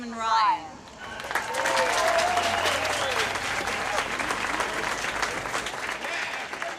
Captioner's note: cheers and applause